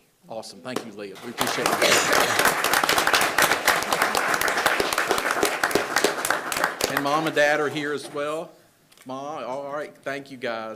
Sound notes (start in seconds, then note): 1.1 attendees applauding